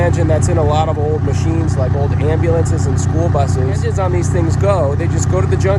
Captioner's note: engines